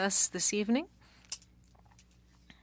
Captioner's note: speaking French